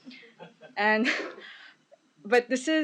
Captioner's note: laughing